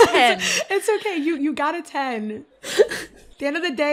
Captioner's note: sighs